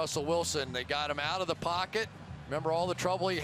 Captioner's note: cheering